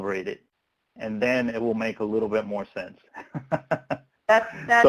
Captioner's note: laughs